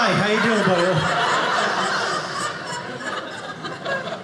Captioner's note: audience laughing